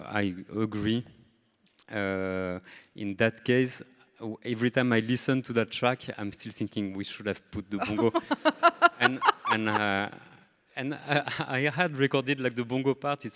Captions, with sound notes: I agree. In that case, every time I listen to that track, I'm still thinking we should have put the bongo. (everybody laughing) and I had recorded like the bongo part,